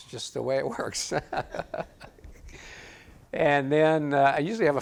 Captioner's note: audience laughs